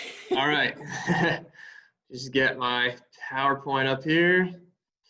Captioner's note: laughs